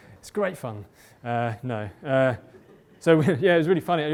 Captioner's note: laughter